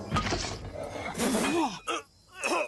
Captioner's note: Duncan Spitting